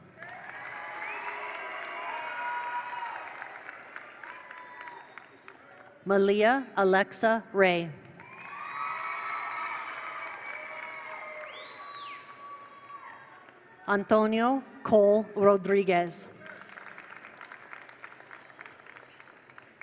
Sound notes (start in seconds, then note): 0.0 attendees cheer; 0.0 attendees applaud; 8.0 attendees applaud; 8.1 attendees cheer; 16.4 attendees applaud